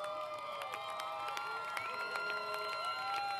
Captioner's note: applause